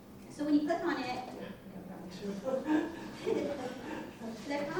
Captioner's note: audience laughter